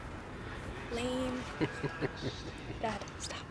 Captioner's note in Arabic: ضحكة مكتومة